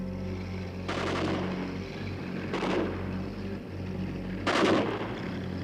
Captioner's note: car engine revs; gunshots